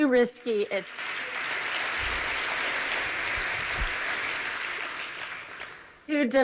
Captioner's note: applause